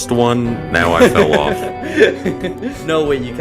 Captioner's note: laughs